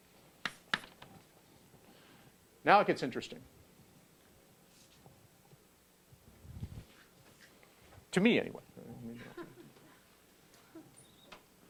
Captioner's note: laugh